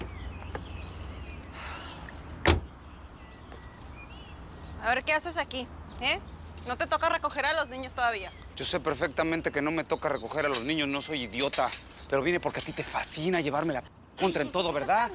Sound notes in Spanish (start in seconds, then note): 2.4 Portazo